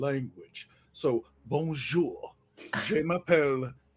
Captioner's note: speaks foreign language